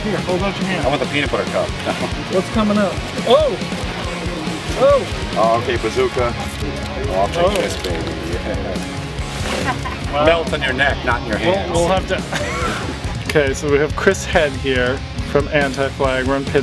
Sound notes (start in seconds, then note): 12.8 laughs